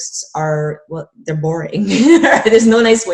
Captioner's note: laughing